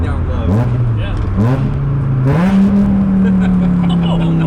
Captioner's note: car engine roaring